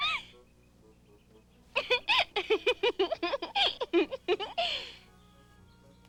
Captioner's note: giggling